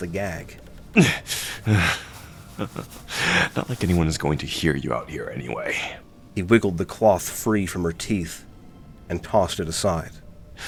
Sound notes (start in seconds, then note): 1.6 small grunt